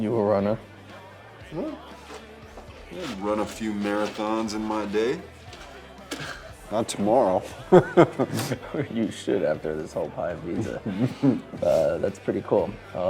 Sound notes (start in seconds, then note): 5.6 chuckles; 7.4 Drew laughs